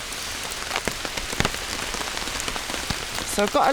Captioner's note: rain